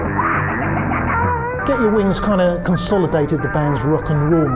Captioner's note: screeching